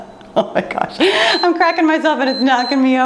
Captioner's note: laughs; timer beeps